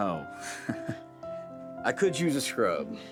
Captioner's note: chuckling